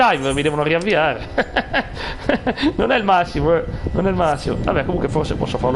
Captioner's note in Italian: risate